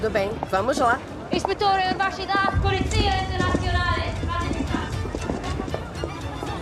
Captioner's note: woman speaking Italian